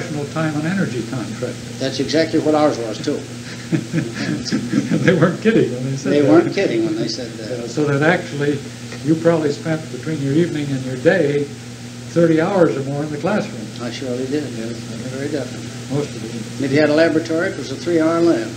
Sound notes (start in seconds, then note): 3.4 laughter